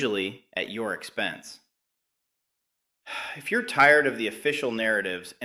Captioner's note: sighs